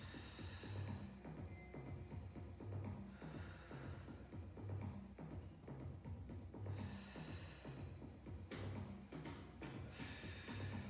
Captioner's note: breathes